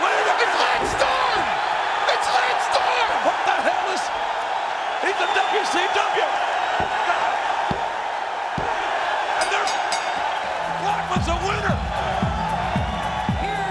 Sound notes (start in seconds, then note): 8.8 audience cheering; 9.4 bell chimes